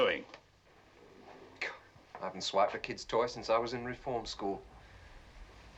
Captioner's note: scoffing